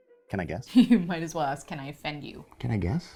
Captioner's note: laughs